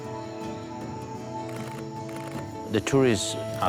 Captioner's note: camera clicking